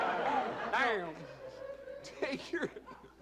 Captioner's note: laughter